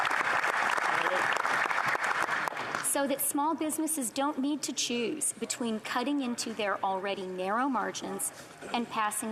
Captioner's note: applause